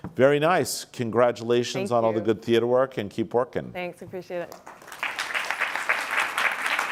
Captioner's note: applause